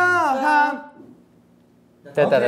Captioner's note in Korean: 표정을 위한 침묵